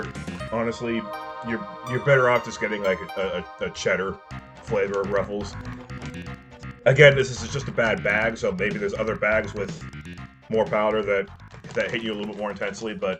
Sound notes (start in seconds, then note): none